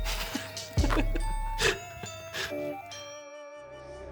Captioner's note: awkward laugh